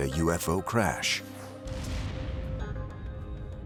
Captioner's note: whoosh; explosion